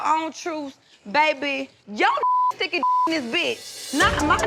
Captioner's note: beep